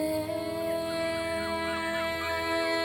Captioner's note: seagulls squawking